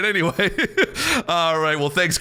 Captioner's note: laughing